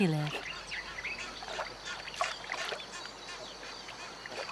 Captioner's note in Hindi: जानवरों की आवाज़ें